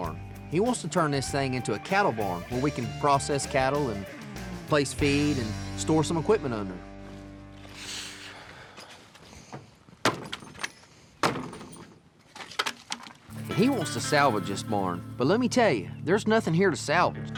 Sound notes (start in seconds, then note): 6.9 footsteps; 9.4 kicks barn